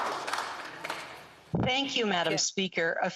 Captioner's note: some Applause